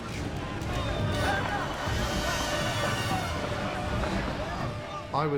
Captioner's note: firefighters chattering